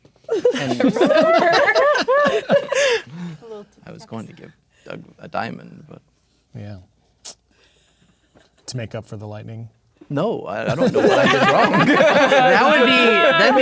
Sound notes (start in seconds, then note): 0.3 players laughing; 7.2 clicks tongue; 10.6 players laughing